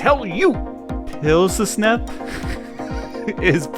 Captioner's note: laugh